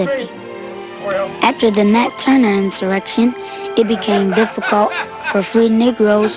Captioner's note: chatter; chatter, laughter